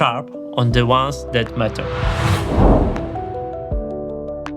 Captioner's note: whooshing